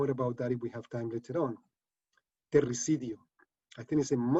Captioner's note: speaking spanish